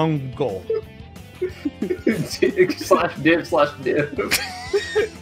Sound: erarg laughs; laughter

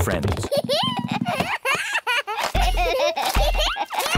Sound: both giggling

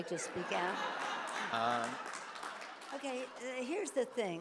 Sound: audience laughs

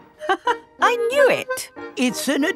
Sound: laughs

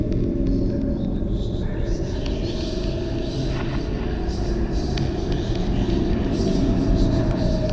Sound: ghostly whispering

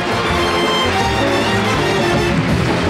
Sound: audience applauding

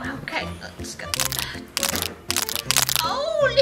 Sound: cracking noises

